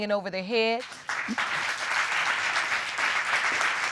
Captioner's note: audience applauds